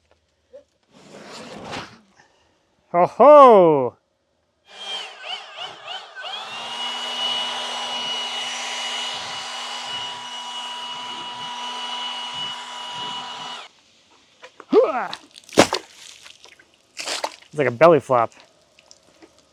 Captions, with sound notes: Ho-ho. (leaf blower whirring) (water sloshing) It's like a belly flop.